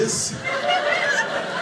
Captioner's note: audience laughing